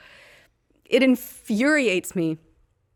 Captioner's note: exhaling forcefully